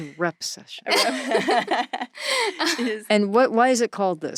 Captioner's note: laughing